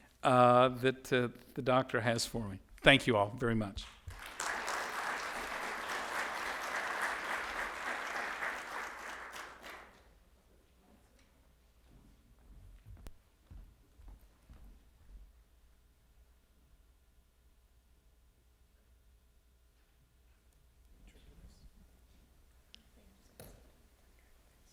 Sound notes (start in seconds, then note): 3.8 audience applauding